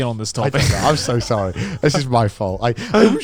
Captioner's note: all laughing